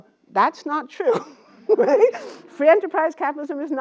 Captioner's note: laugh